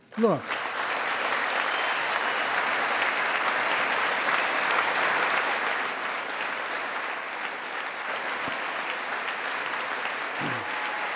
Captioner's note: applause